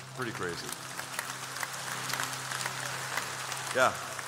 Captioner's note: applause